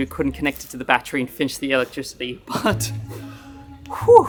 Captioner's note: exhales